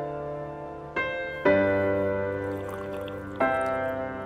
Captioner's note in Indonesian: Kopi di seruput